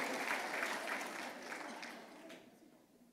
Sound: applause

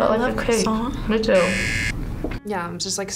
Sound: buzzer rings

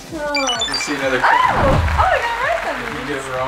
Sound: high-pitched beeps

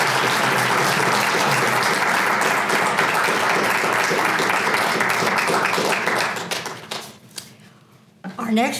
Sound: applause

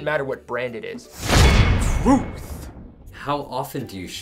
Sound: clank

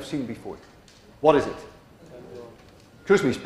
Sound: class murmurs

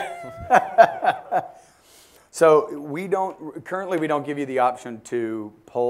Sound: laugh

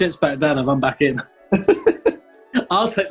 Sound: laughing

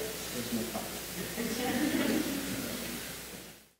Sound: laughter

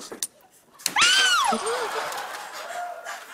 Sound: screams

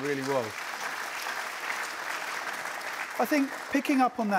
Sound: applause

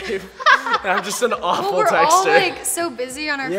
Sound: chuckles; laughing

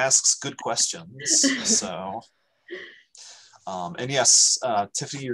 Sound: laughs

